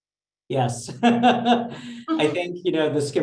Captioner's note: laughs